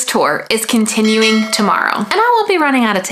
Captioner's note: bell rings